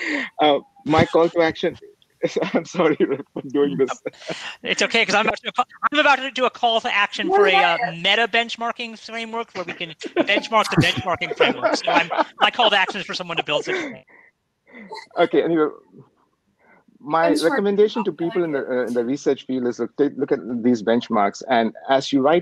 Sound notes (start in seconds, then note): 9.5 more laughter